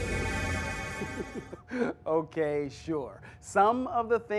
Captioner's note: teleporting sound